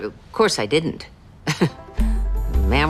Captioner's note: chuckles